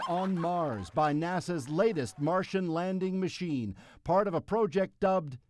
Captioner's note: cheers and Applause